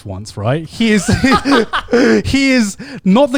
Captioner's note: laughs